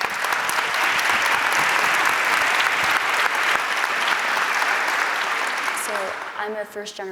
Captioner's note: applause